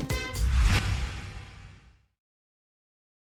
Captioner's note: whoosh